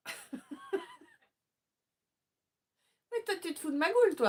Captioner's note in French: rires